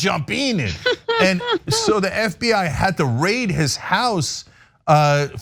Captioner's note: laugh